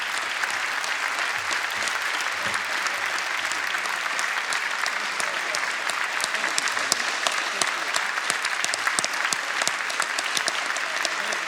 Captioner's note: applause